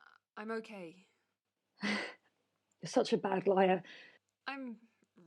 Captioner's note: laughing sadly